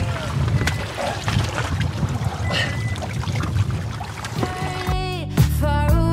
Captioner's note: water splashing